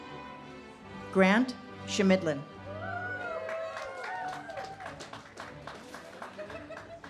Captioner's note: audience cheers and claps